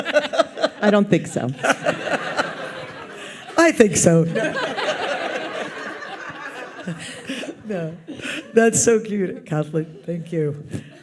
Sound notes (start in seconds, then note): 0.1 audience laughs